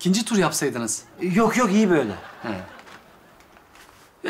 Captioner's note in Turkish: Gülme efekti